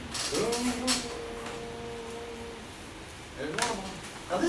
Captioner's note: teacher hums